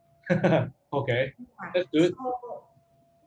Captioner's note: laughs